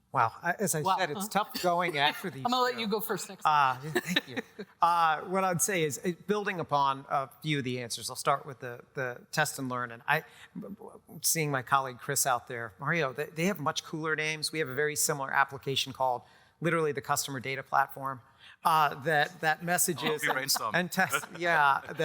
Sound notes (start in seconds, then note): 3.6 laughs